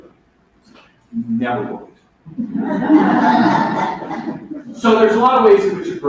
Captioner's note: laughter